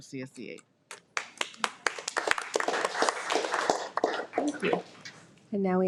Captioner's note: audience applauding